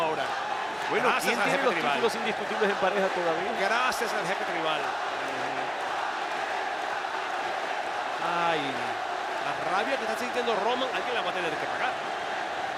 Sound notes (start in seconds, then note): 5.8 applause